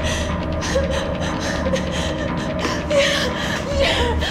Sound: Melanie crying

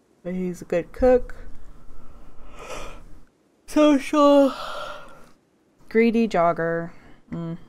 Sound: yawns

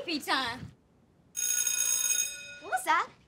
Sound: bell ringing

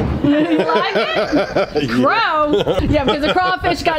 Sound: chuckling

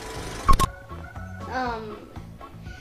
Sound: film running; beeping

